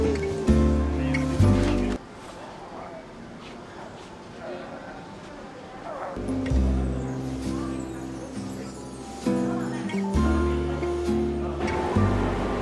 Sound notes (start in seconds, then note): 0.0 gentle upbeat music; 4.7 grunting; 6.2 gentle upbeat music